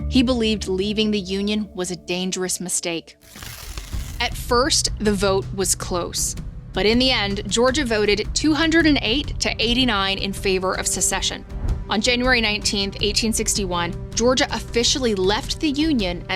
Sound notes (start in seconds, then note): 3.2 graphic rustles; 6.1 intense music